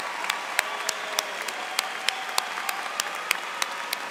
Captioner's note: cheers and Applause